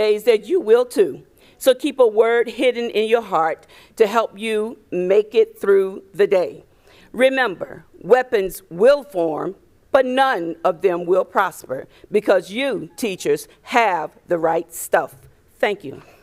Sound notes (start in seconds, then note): none